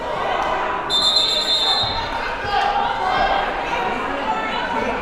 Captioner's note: whistle blowing